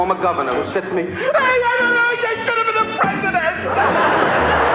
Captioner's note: wailing; laughing